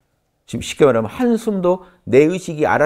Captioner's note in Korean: 호흡